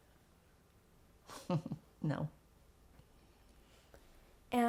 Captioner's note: laughing